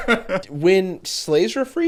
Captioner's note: laughing